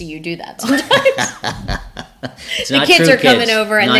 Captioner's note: both laughing